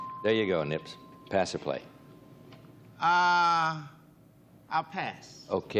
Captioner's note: bell dings